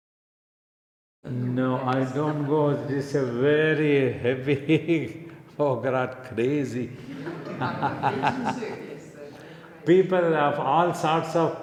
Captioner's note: laughs